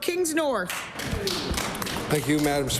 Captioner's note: applause